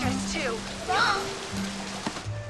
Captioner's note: gasps